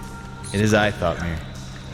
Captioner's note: chuckle